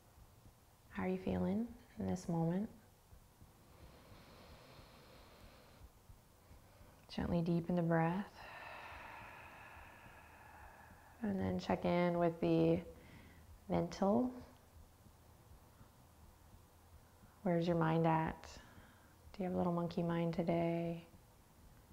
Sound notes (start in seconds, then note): 8.3 exhaling